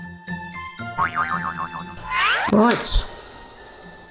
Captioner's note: cartoon bouncing